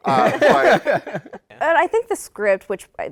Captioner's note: laughter